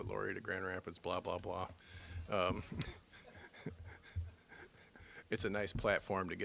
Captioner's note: laughing